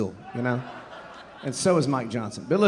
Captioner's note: audience laughing